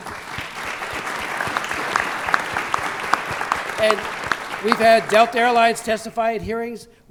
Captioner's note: applause